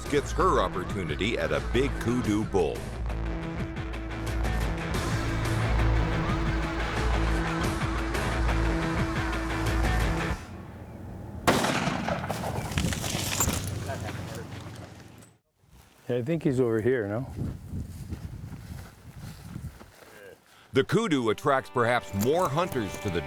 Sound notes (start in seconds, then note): 11.4 gun fires; 12.0 animal breaking branches